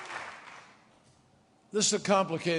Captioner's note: applause